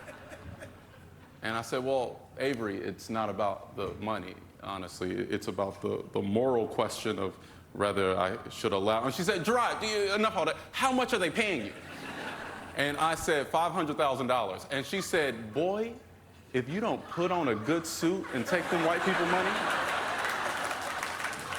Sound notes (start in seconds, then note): 9.8 laughter